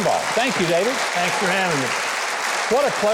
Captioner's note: congregation applauding